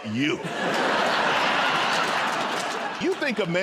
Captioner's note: laughter